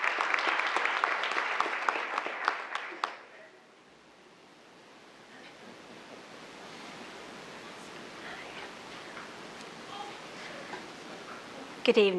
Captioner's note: applause